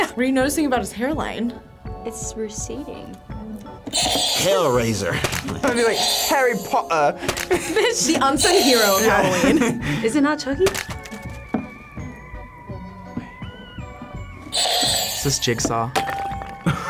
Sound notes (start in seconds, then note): 3.9 buzzer rings; 7.3 laughs; 8.3 buzzer rings; 14.5 buzzer rings; 15.9 bell rings